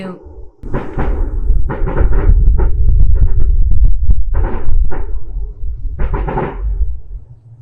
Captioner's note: gunshots in the distance